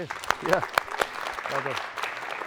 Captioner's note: applause